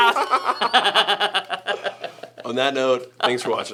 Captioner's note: laughing